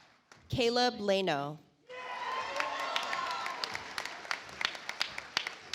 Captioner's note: audience applauds